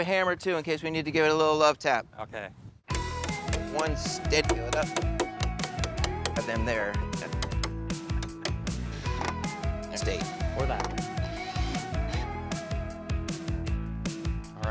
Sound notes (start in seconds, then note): 3.4 bright music; 5.6 hammer banging; 10.8 drilling machine whirring